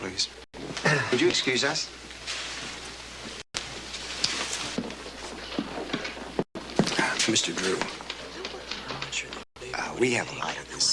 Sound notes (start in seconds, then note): 7.5 chattering